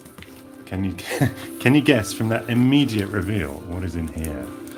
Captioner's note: laughs